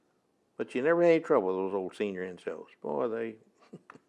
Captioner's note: laughs